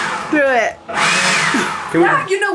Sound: whooshing of leaf blower

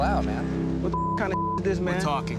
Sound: beeping

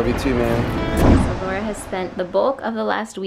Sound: whoosh

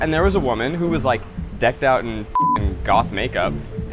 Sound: beep

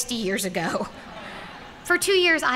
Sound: laughter

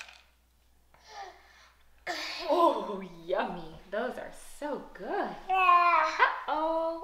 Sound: gasps

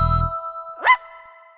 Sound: bark

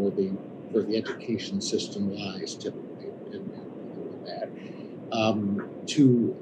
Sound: audio distorts

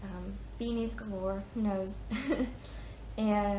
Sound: chuckles

